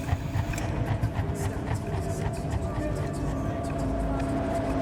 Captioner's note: voices echoing; suspenseful music